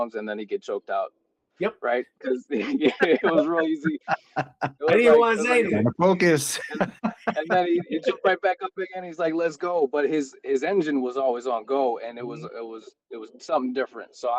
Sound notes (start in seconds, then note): 4.8 laughing; 7.3 laughing